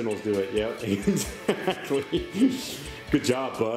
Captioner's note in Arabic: يضحك